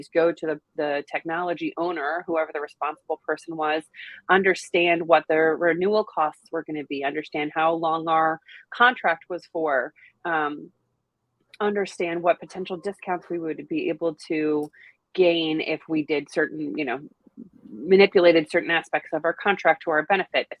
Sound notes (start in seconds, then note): none